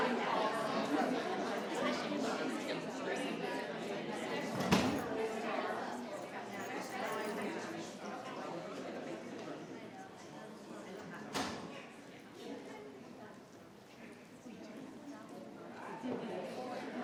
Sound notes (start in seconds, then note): 10.7 speaks faintly